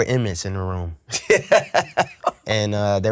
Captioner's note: laughs